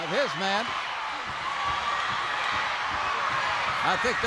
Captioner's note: crowd cheers